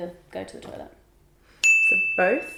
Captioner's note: bell dings